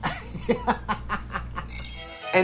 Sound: Katya laughing; soft chiming

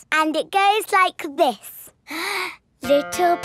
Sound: inhales

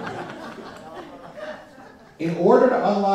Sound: laughter

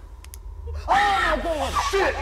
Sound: screams

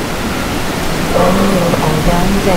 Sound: another clank

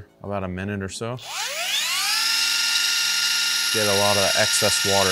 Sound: tool whirs

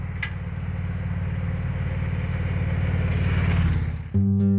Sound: engines roaring; mellow guitar

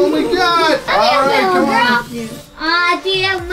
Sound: mumbles

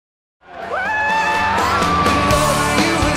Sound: woman cheering

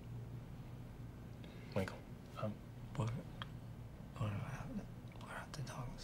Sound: stammering

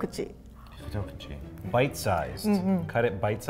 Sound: speaks in foreign language

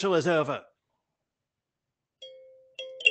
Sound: silence

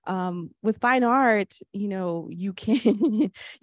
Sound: chuckles

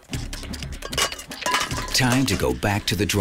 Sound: metal clanking

